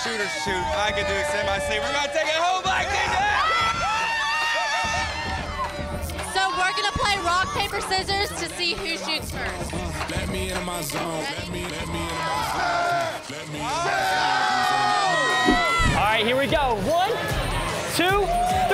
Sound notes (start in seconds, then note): 3.9 cheering